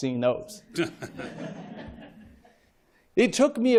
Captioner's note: laughter